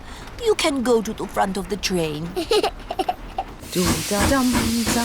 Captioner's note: giggles